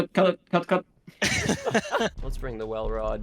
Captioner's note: everyone laughs